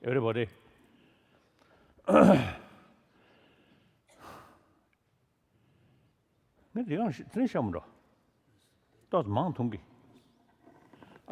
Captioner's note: foreign Language